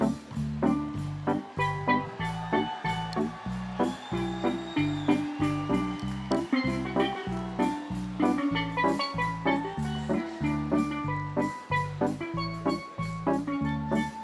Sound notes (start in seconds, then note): 1.8 audience applauds